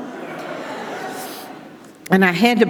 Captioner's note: audience laughing